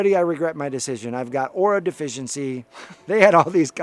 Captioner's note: chuckling